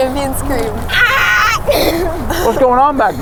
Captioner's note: screams